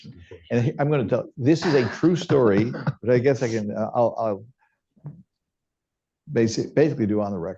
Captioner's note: laughter